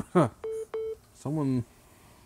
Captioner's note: laughs